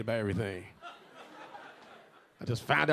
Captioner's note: a few audience members laughing